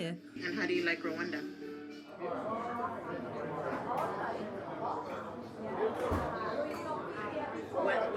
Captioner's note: laughing